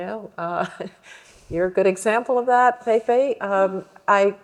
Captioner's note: laughs